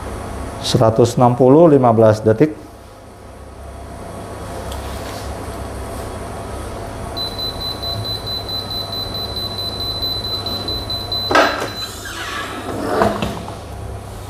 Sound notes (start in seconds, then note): 7.1 beeping sound; 11.1 press machine noise